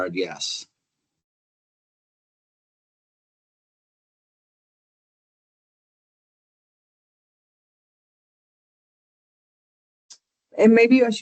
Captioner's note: pause